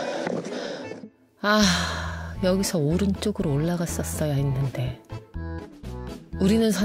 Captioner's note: sigh